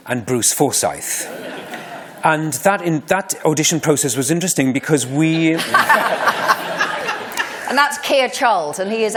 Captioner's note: laughter